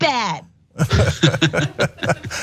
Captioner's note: laugh